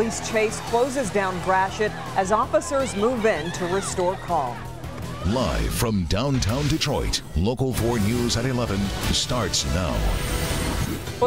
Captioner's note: cheering